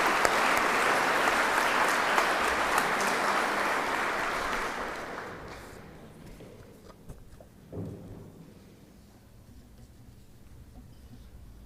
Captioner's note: applause